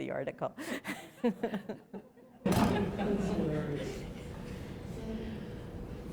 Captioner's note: laughter